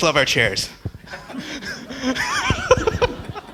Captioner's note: laughing